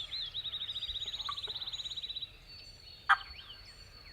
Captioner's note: birds whistling